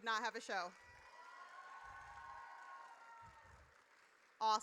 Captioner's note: audience cheers